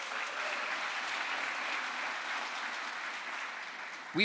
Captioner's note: crowd applause